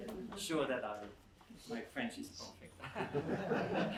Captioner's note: laughter